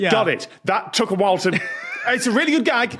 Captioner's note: wheezes